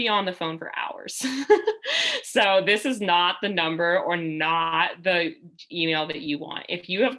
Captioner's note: laughter